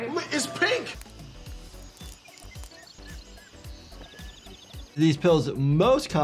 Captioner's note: birds chirping